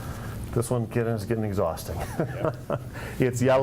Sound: laughs

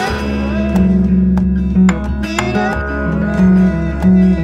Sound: guitar music; humming melody

